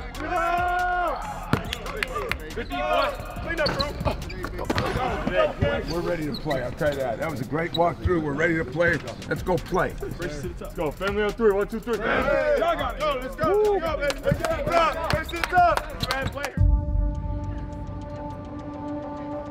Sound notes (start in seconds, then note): 1.5 claps hands; 13.9 claps hands; 16.5 ethereal music